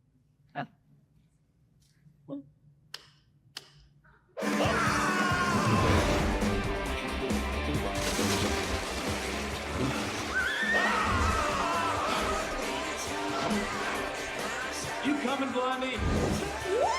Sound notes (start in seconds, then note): 2.3 fist claps; 4.4 upbeat music; 4.4 Flynn screaming; 10.0 Maximus neighing; 10.0 Flynn screaming